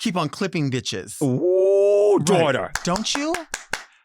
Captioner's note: clapping